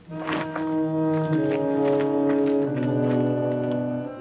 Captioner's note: dirt pounding